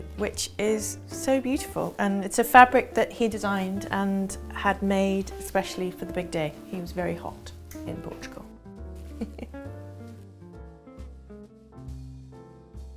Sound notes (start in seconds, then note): 9.1 chuckles; 9.9 jazz music